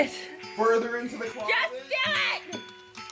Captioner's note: me, shouting like a lunatic